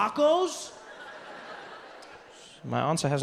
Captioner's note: audience laughs